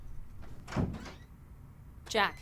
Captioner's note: door squeaks